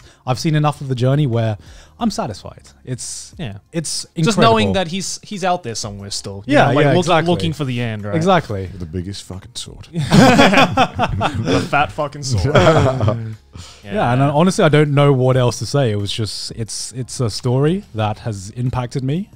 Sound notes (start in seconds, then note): 10.0 everyone laughs